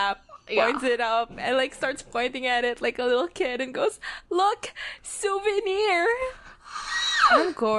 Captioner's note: screams